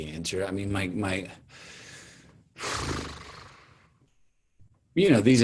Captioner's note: blows raspberry